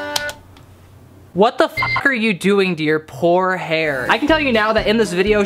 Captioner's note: beep